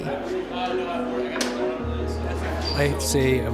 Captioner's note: general chatter